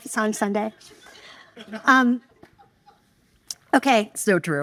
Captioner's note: audience laughing